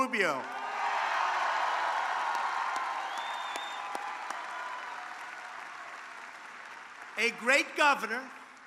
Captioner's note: applause